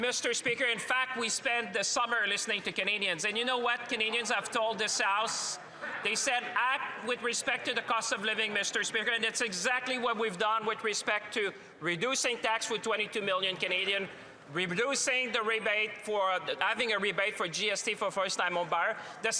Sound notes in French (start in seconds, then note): 1.5 voix de l'interprète